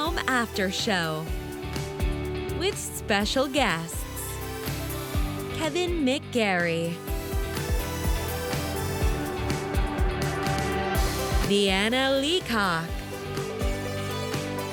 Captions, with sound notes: - [Voiceover] The Super Channel "Heart & Home After Show" with special guests, Kevin McGarry, (upbeat pop music continues)